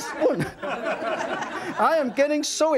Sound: audience laughing

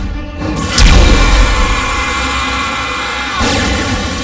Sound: blasting

